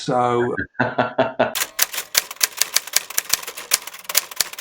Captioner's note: laughing